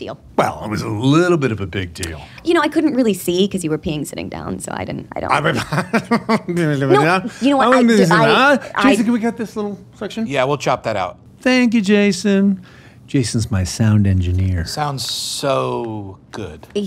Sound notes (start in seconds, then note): 5.5 nervous chuckling; 8.1 murmuring